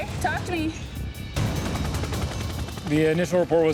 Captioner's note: helicopter blades whirring